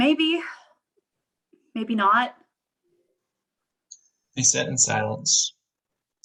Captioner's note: they sit in silence